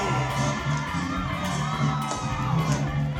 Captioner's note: applause